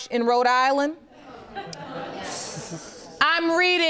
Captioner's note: audience laughing